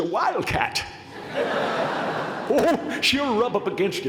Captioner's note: laughter